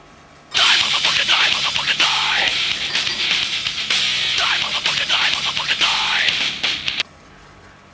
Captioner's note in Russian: звонит телефон